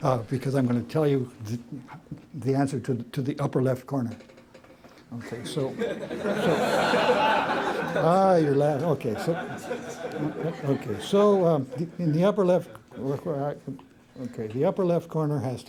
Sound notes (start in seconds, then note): 5.2 laughter